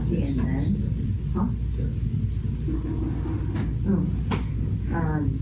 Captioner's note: whispering